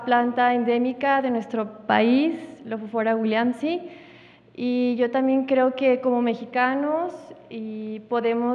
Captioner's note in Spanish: habla en wixárika